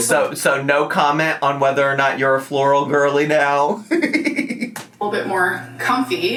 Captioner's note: laughs